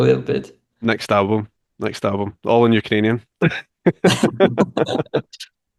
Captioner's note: laughs